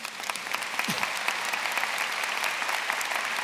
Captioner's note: applause